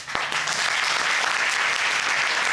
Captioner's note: applauding